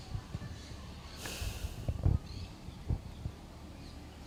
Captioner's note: sighing